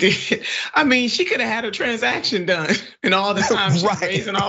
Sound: laugh

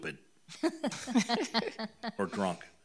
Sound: trustees laughing

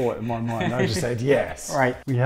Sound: laughs

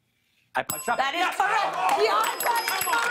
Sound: bell dings

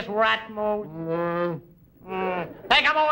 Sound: grunts

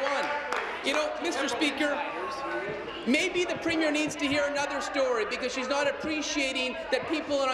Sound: applause

